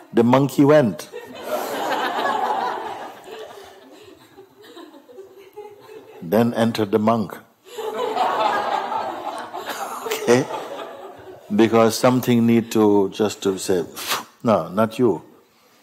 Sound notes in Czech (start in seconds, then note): 7.7 smích